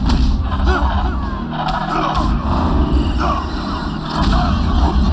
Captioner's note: punching, groaning